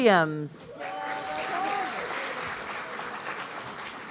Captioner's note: audience cheering